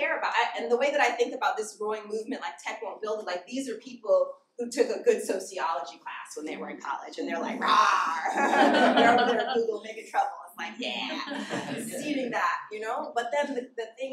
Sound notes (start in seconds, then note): 8.2 laughter